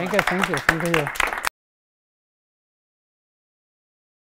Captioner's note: applause